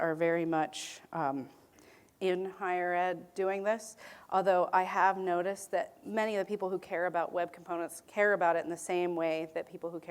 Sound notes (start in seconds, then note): none